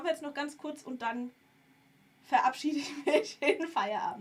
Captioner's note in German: gelächter